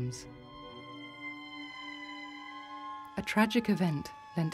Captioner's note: siren blaring